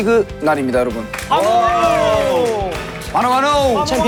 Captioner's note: cheer